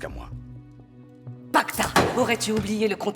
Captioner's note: Cleopatra speaks in foreign language